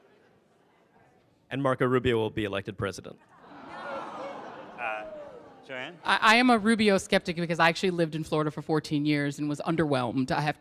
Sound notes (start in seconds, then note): 3.3 audience laughs